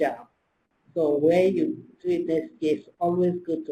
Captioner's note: slurred